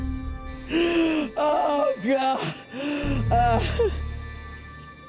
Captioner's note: sobbing